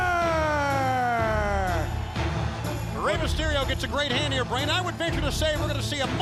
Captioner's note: crowd cheering